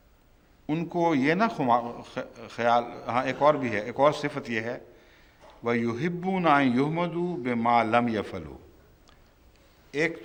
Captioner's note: Arabic